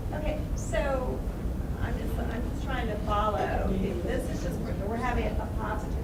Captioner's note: voiceover